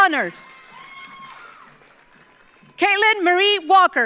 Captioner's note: audience applauds